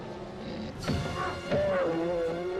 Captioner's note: bear roars; Eli grunts; blow thuds